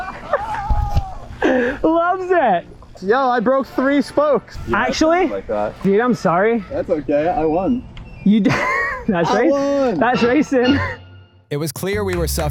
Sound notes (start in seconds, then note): 8.4 laughs